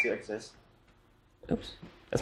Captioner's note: electronic beep